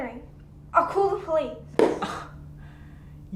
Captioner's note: slamming book shut; scoffing